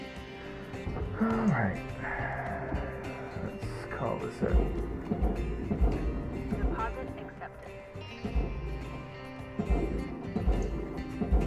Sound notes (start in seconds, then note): 0.3 sighs